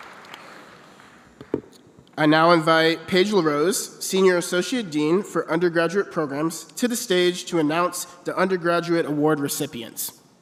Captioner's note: applause